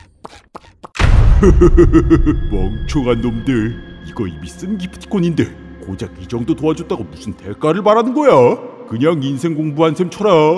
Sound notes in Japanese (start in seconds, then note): 1.4 ふふふふふ…